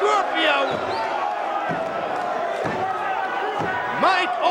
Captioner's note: crowd chattering